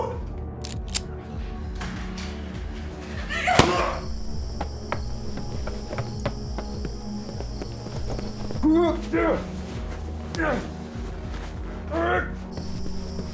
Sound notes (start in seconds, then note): 0.1 boy laughing; 0.6 gun cocking; 3.7 Carrie yelping; 3.7 gunshot echoing; 5.0 tense music; 10.2 people groaning